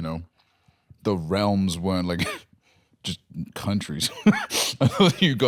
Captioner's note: laughs